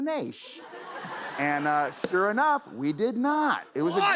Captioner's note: laughter